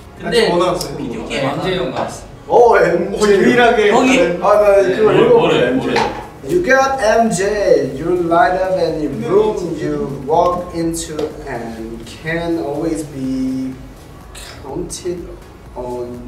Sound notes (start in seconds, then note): 0.1 speaks Korean; 5.1 all speaking Korean